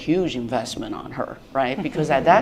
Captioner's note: laughter